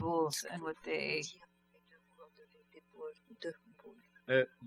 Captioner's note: speaking french